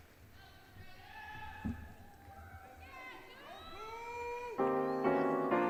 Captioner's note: audience applauds; piano plays